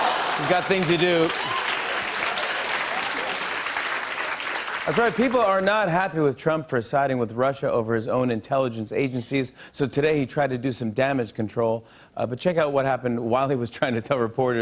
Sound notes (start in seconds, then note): 1.7 applause